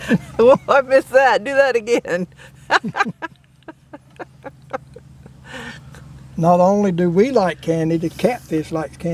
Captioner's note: laugh